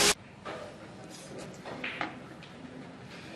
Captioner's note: billiard balls clacking